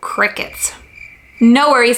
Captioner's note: crickets chirping